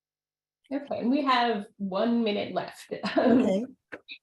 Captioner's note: chuckles